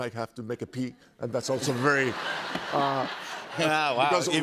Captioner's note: laughter